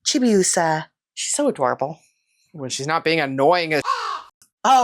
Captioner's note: meow